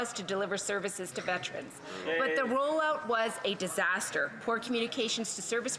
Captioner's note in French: voix de l'interprète